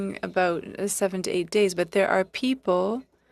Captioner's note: speaking French